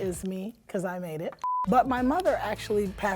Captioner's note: beep